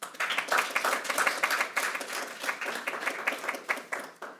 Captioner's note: audience applauding